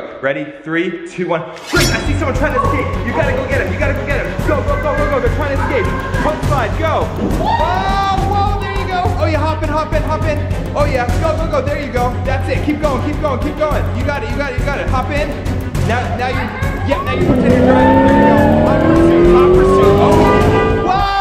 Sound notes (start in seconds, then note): 7.4 yells; 16.9 engine roars